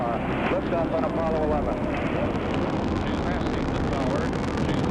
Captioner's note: engine roaring